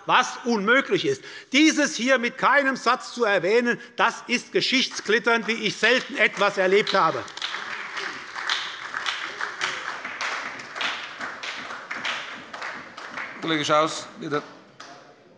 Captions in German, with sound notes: was unmöglich ist“, das ist geschichtsklitternd, wie ich selten etwas erlebt habe. [Beifall bei der SPD und der FDP sowie bei Abgeordneten der CDU] Herr Kollege Schaus, bitte.